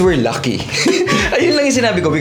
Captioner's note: laughs